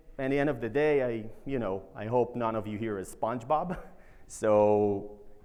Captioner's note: chuckles